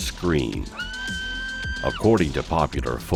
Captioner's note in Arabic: يصدر الشيطان صراخًا عالي النبرة